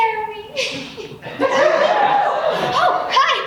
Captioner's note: audience laughs